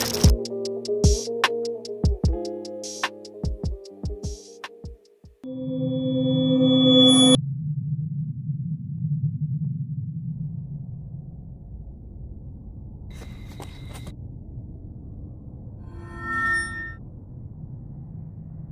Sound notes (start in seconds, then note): 5.3 ominous music; 13.2 footsteps running; 15.9 screech